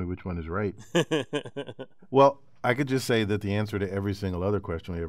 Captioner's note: laughs